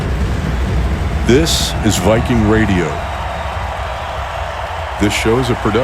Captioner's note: crowd cheering